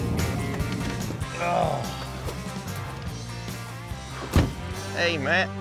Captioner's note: groans